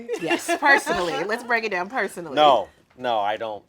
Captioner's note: laughing